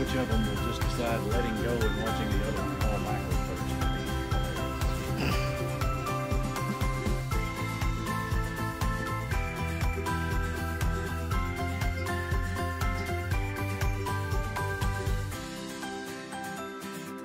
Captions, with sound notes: I wonder which of them will just decide letting go and watching the other one fall back would just be hilarious. [ laughs ]